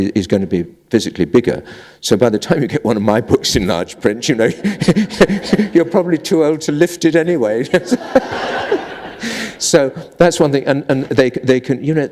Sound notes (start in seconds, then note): 4.6 chuckle; 7.7 laughter